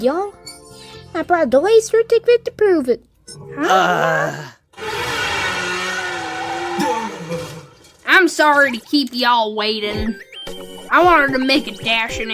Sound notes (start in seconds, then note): 3.5 all groan